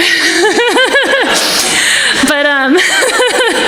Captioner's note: everyone laughing